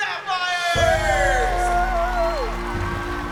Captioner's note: cheering